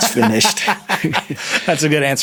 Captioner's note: Nilay laughing